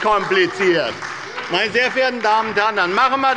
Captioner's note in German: Beifall bei der SPD